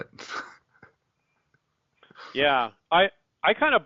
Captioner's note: chuckles